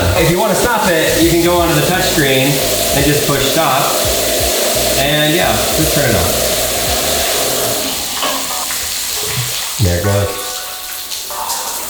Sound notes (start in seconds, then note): 6.7 water running